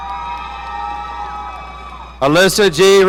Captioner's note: audience cheering